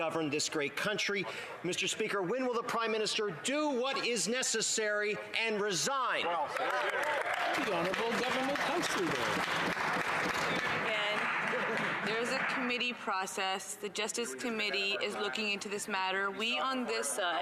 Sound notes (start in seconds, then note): 9.8 some Applause